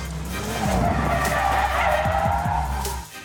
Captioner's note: tires screeching